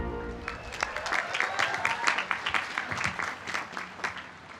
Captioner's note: applause